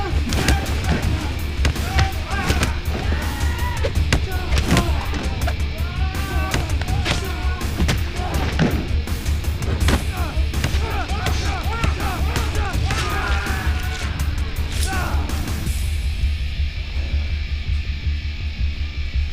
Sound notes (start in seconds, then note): 6.9 men groaning; 9.9 thudding; 10.6 man screaming